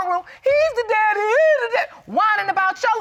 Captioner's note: imitates mockingly